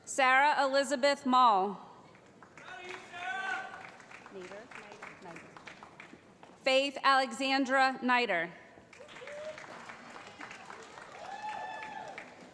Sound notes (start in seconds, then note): 3.1 voiceover; 9.0 cheering